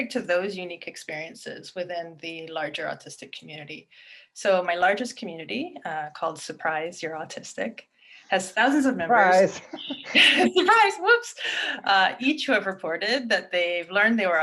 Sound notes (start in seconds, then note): 9.4 chuckles